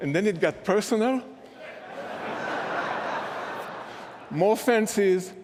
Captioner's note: laughter